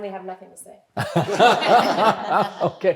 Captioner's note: everyone laughing